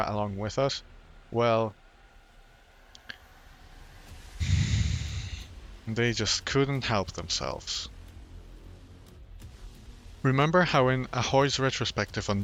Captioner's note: sigh